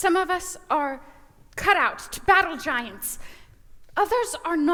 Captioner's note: none